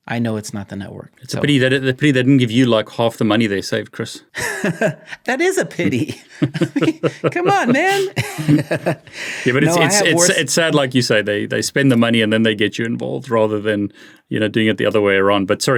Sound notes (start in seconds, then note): 5.7 chuckles; 5.7 both laughing